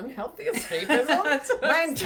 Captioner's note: laughs